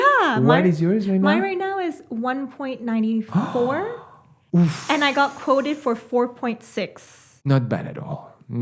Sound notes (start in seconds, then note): 3.3 gasp